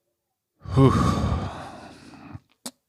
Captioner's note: exhales